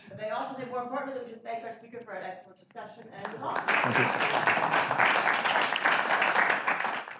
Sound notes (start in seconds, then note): 3.2 audience applauding